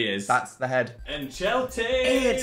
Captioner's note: Phil speaking in foreign language